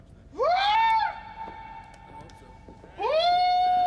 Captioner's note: Rick shouting